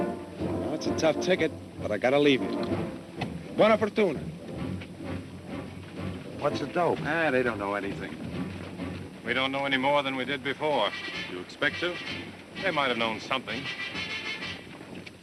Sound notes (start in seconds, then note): 3.5 speaking italian